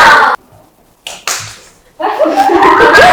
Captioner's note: clap clap